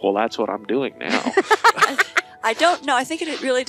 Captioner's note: laughing